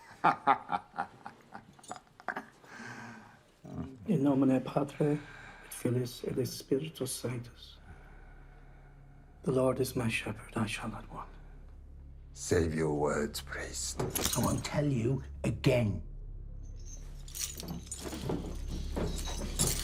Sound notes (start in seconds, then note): 0.0 William laughs; 4.2 priest prays in Latin